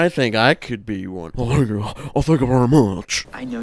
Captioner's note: doing a bad Elvis impersonation